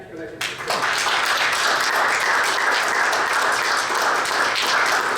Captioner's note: audience applauds